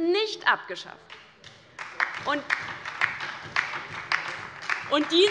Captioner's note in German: Beifall bei der LINKEN